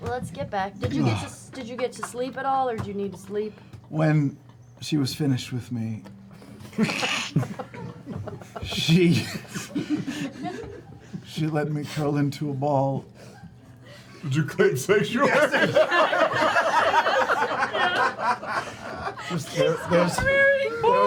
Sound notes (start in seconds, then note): 13.1 laughs; 15.0 laughter